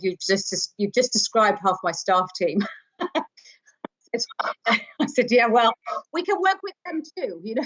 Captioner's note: chuckles